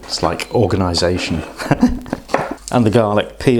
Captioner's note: giggles